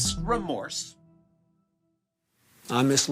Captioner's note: soundbite of archived recording